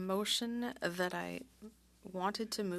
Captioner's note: speaking French